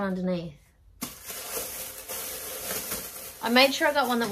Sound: plastic rustles loudly

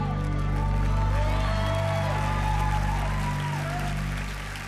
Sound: crowd cheering

